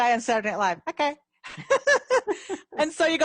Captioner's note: both laughing